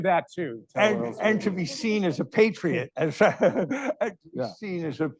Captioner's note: laughing